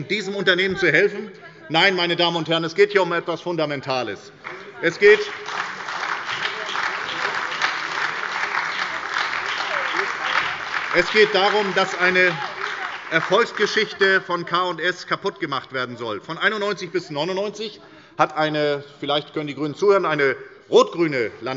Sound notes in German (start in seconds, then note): 6.1 Beifall bei der SPD und der FDP